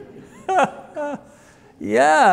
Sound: audience laughs; laughs

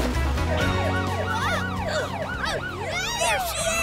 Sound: grunting

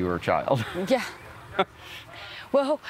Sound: both chuckle

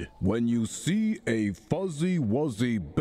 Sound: Cliff reading aloud

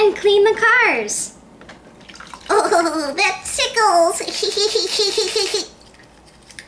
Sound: laughter

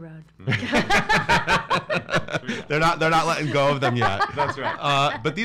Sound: laughs

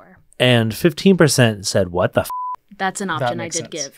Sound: beep

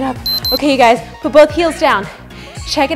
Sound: timer beeps

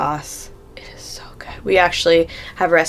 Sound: whispering

